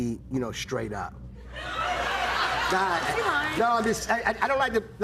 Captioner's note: laughter